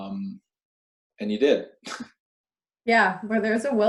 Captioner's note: laughs